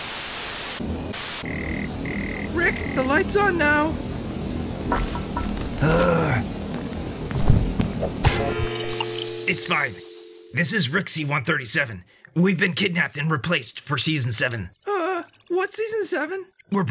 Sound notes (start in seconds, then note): 6.7 foot steps, wrestling sounds; 8.2 clang!